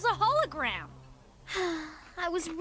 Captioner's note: sigh